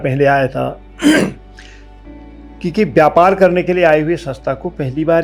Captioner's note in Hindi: गला साफ़ करने की आवाज़